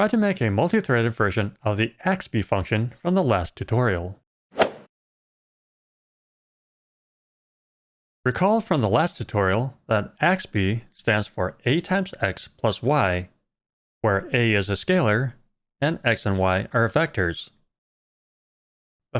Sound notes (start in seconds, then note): 4.6 golf ball hit sound